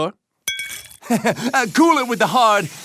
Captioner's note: glass clinking; laughs